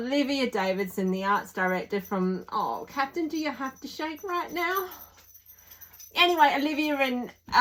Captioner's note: tags jingling